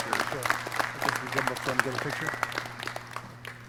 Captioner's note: clapping